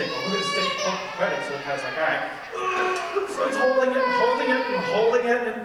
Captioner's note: straining and groaning